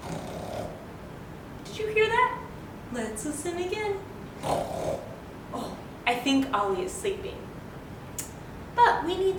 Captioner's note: snoring noise; snoring noise